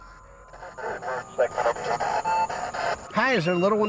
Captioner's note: spirit box scanning; spirit box voice